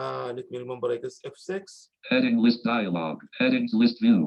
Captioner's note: automated Voice